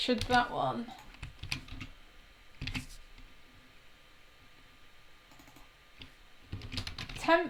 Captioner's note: keys tapping; mouse clicking